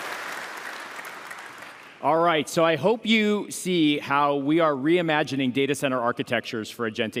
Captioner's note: applause